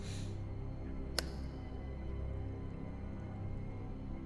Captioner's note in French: claquement de doigts